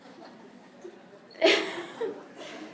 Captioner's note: laughter